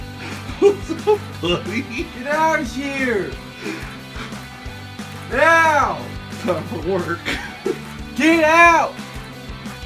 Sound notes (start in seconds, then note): 0.2 yells; 0.5 rolling laughter; 4.7 still yelling